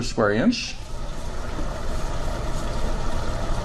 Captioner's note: pours liquid